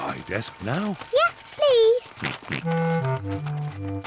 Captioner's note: laughs; george oinks